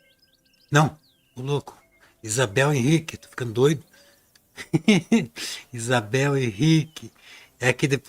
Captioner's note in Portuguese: risadas